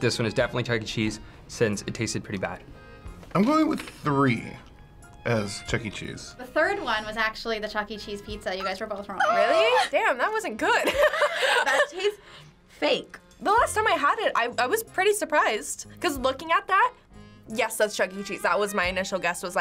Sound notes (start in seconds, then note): 10.8 both laugh